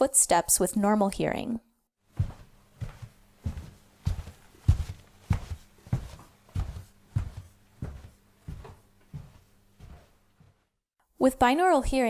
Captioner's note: footsteps